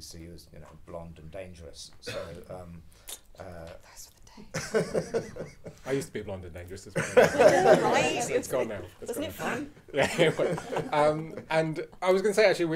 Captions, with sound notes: Lucy was blonde and dangerous. So- - Those were the days. (audience laughing) - I used to be blonde and dangerous as well. (audience laughing) - I know, right. - It's gone now. - Wasn't it fun? (audience laughing) - And I was gonna say, actually,